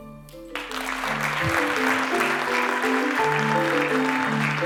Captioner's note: applause